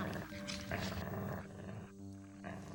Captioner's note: growling